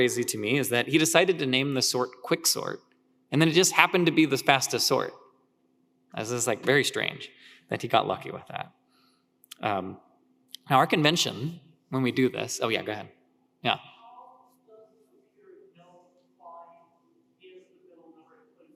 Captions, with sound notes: is that he decided to name the sort Quicksort and then it just happened to be this fastest sort. This is, like, very strange that he got lucky with that. Our convention when we do this, oh yeah, go ahead, yeah. (speaker speaking faintly)